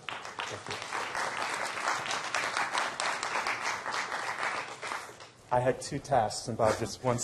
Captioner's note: applause